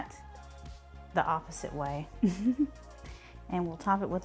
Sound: chuckles

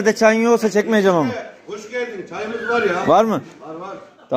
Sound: laughter

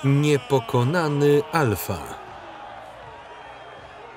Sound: crowd cheering

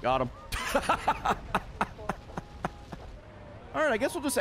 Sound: laughs

